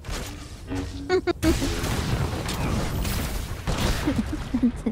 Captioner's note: laughter